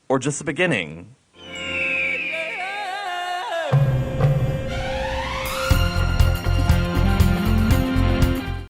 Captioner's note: hawk screech